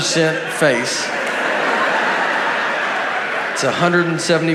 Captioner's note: audience laughs